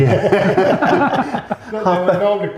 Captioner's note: laughter